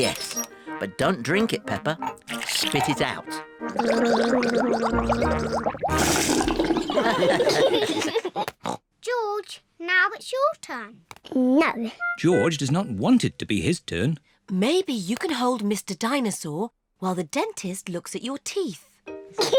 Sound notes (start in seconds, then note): 3.7 gargles; 6.8 all laugh; 19.4 giggles